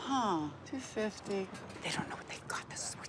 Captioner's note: whispers